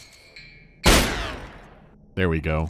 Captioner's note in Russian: бах